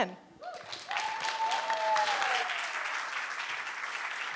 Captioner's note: audience applauding